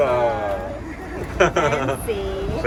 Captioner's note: laughs